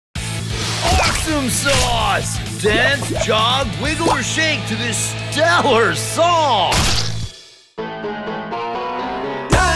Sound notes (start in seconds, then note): 0.2 voiceover; 2.4 driving rock music